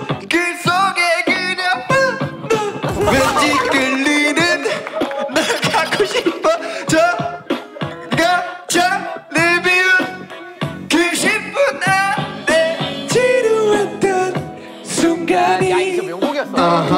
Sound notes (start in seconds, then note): 4.8 laughing